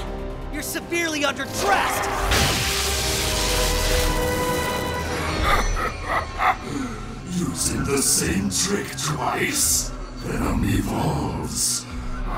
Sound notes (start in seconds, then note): 5.0 cackles